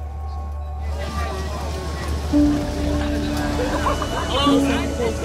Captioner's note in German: Zirpen von Insekten, sprechende Menschen